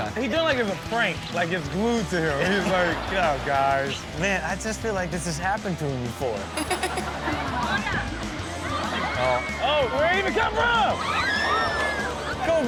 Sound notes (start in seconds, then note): 6.6 laughs; 7.6 girls scream